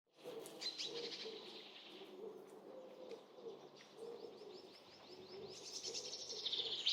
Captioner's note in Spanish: trinos de pájaros